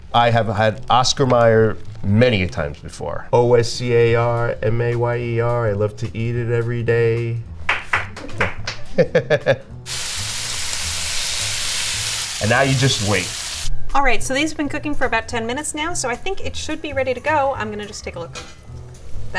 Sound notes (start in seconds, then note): 8.7 laughing; 9.8 bacon sizzling